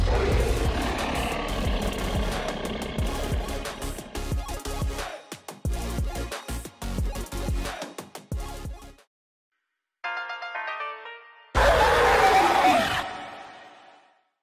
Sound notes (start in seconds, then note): 0.0 dinosaur roar; 11.6 Cartoon Cat roars